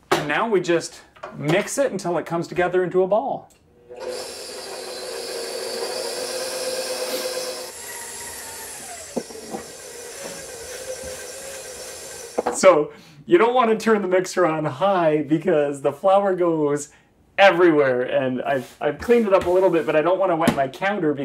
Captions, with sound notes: Now we just mix it until it comes together into a ball. (mixer whirring) So you don't wanna turn the mixer on high because the flour goes everywhere. And I've cleaned it up a little bit, but I don't wanna wet my counter